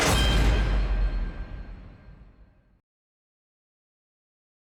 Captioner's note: dramatic clang